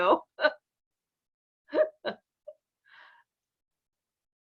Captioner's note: laughing